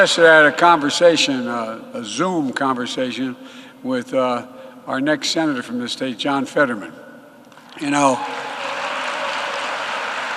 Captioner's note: applause